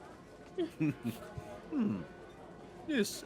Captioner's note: laughs